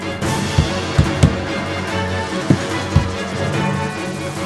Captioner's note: banging